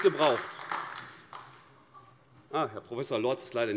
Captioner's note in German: Beifall AfD